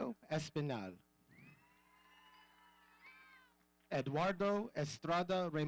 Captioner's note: audience cheering